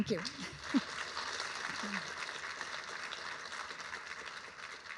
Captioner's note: audience clapping